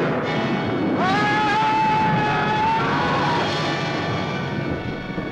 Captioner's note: Vornoff screaming